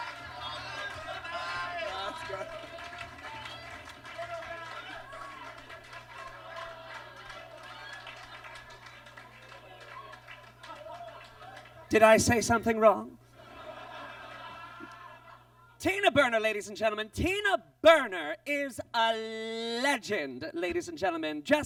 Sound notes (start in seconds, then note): 13.3 audience laughs